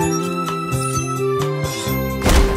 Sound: thud

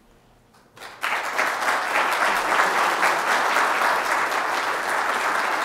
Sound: audience applauding

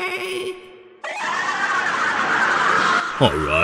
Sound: intense screaming in pain; intense screaming in pain

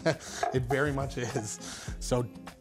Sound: chuckles

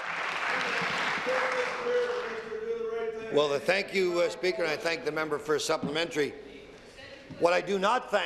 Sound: applause

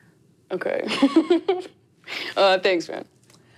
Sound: laughs

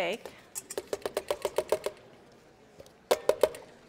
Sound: tapping

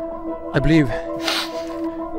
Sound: sniff

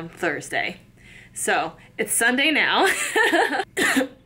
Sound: chuckles

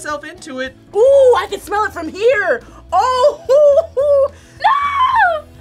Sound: laughs

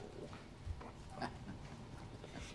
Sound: laughing

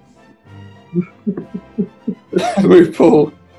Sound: chuckling

